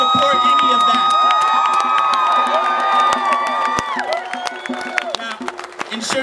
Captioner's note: cheering, screaming, clapping, excitement